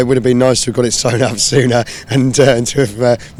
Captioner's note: laughs